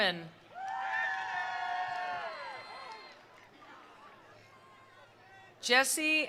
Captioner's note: attendees cheering; attendees applauding